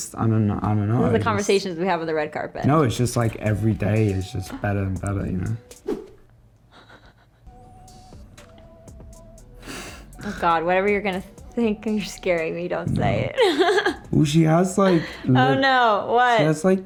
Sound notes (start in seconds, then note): 5.7 swish; 6.7 chuckles; 9.8 laughs; 13.3 laughs